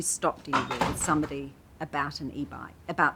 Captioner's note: clatters